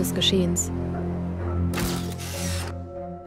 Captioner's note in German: Klicken eines Fotoapparates